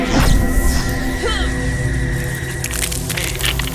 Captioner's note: grunting